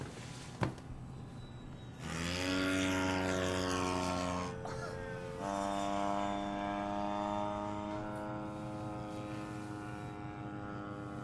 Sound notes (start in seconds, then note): 1.9 motor buzzing loudly; 4.6 June chuckles